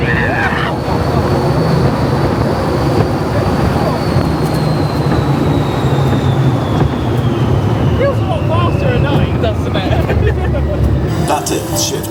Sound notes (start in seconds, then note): 0.0 both scream; 5.9 rollercoaster slows down; 11.2 both laugh